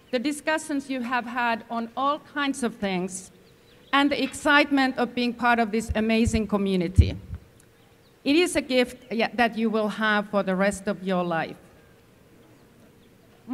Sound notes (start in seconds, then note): none